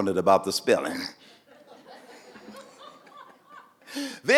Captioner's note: audience laughing